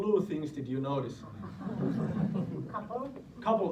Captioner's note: students laugh